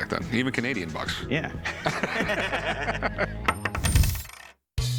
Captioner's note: laughter